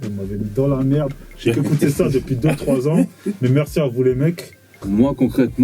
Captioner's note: laughs